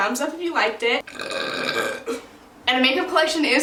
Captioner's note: burps